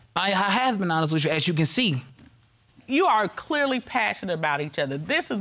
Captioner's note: stammers